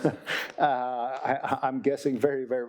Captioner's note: audience chuckling; chuckling